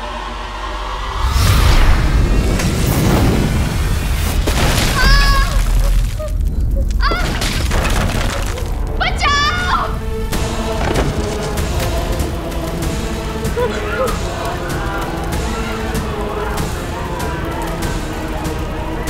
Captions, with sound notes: [whooshing] - [loud thud] - Ah! Ouch! Help! [whining] [chaotic cries]